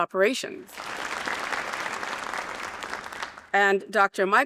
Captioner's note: audience applauding